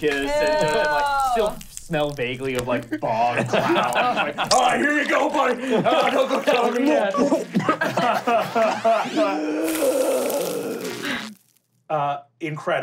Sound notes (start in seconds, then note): 6.7 gurgling; 7.5 laughing; 9.5 deep breath